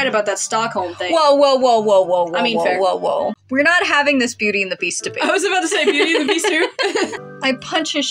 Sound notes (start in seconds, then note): 5.3 laugh; 5.7 chuckle